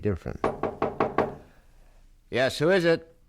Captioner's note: knock on door